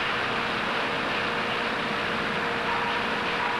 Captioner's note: cutter whirs